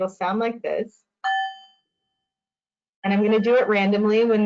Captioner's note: bell ringing